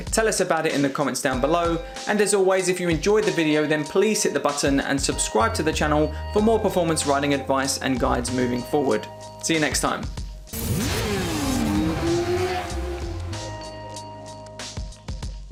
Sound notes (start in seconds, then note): 10.5 motorcycle engine revving; 13.2 gentle music